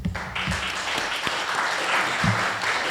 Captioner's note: applause